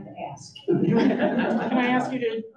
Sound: audience laughs

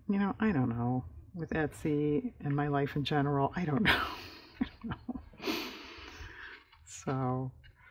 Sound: laughs

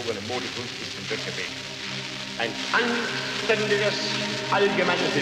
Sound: film crackles

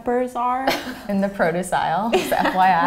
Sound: laughs

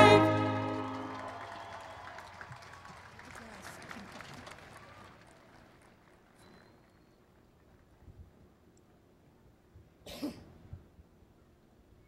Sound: applause and Cheering

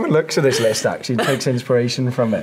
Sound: laughs

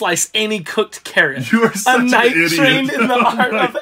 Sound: laughs

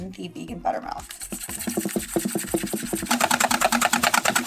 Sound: whisking

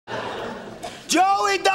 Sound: audience laughing

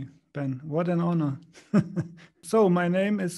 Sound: laughs

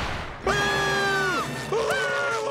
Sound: screaming

